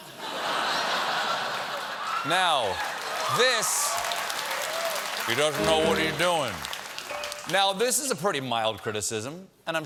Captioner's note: laughter